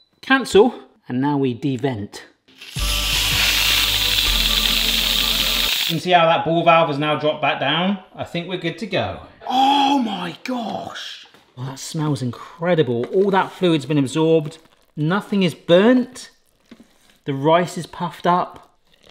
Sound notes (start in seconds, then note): 2.6 light upbeat music; 2.6 steam hissing